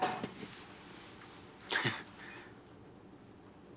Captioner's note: chuckles